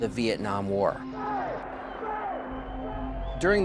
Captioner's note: yelling